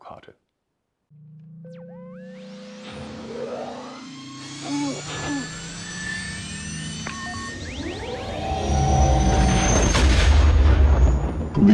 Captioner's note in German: Millennium Falcon Triebwerksgeräusche